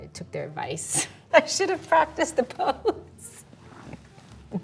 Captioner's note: laughing